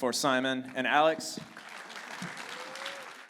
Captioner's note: audience applauding and cheering